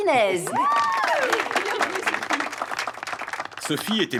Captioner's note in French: applaudissements